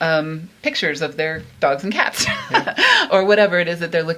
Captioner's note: laughs